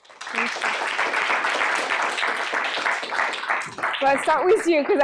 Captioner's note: applause